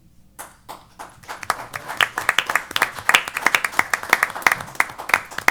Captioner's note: applause